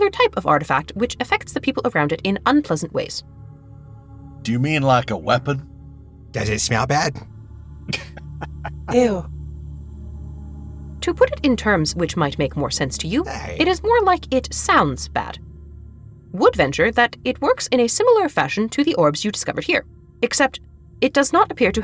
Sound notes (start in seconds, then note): 7.9 chuckles